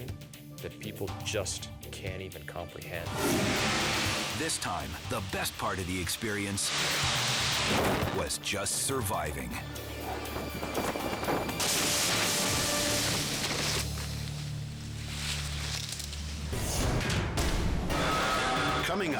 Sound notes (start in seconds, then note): 10.7 branches break; 16.5 logo bangs